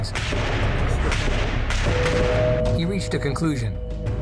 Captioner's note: guns firing